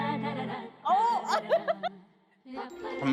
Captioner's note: laughs